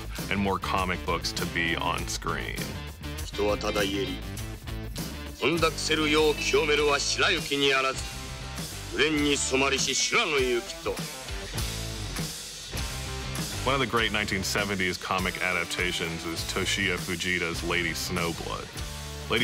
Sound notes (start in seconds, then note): 3.2 gentle brooding music; 3.3 narrator speaking Japanese; 12.8 upbeat music